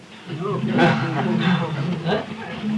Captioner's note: laughter